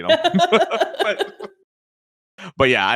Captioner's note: laughs